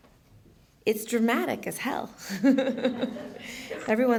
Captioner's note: laughs